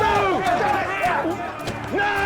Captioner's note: crowd clamoring